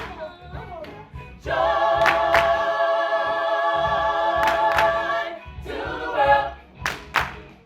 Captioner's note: all clapping hands